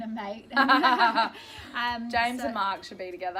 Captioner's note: laughter